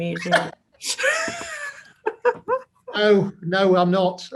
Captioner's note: both laugh